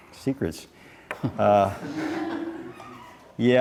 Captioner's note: laughing